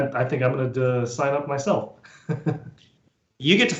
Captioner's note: laughs